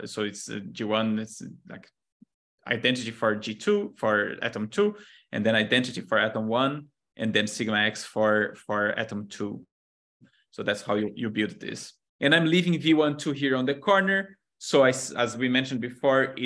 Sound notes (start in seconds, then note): none